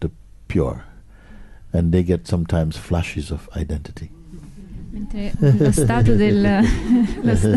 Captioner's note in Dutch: gelach